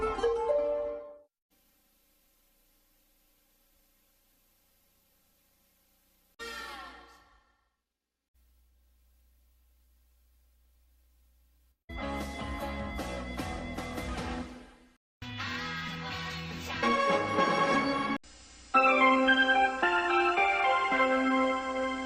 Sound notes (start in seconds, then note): 1.5 VHS static; 8.4 VHS static; 18.8 analog synthesizer music playing